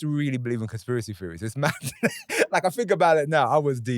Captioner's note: laughs